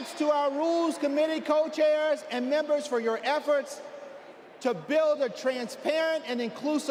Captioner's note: applause